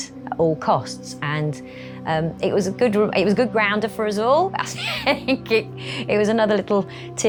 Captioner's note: laughs